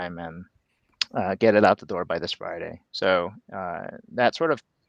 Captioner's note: none